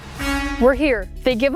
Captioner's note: truck honking